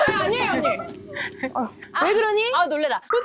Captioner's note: dropping parasol in shock sound